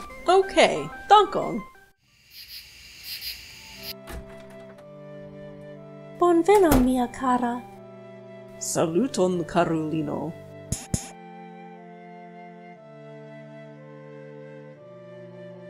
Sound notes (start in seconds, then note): 2.0 crickets; 3.7 door opens and closes